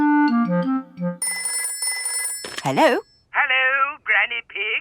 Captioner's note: telephone ringing